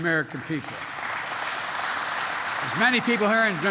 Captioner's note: applause